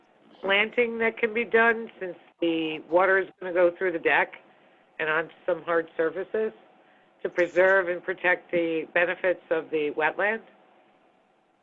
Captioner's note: phone